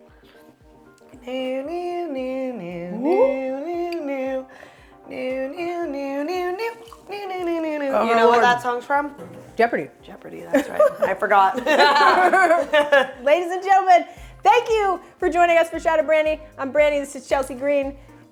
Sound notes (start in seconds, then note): 1.0 Chelsea humming; 10.5 both laughing